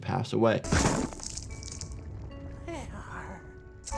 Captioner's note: liquid sloshing